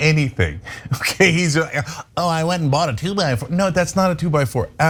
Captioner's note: laugh